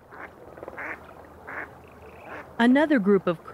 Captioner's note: duck quacking